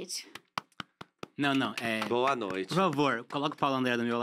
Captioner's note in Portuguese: palmas